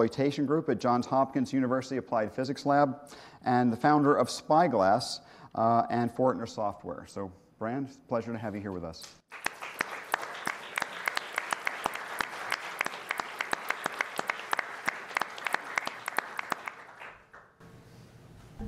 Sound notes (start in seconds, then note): 4.2 applause